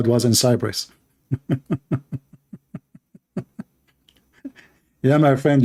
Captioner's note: Ketawa